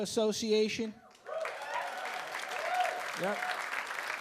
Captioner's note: audience cheering and clapping